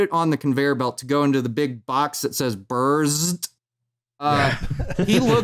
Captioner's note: laughter